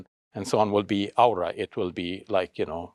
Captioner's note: speaks Arabic